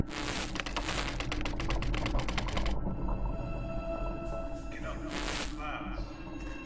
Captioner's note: static crackling; keys clicking